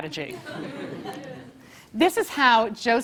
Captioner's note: laugh